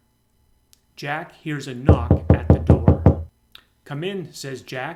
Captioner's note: knocking sound